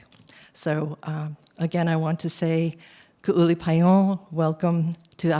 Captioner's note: non-english speech